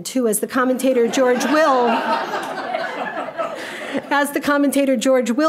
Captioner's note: audience laughing